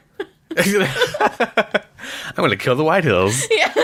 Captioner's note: laughs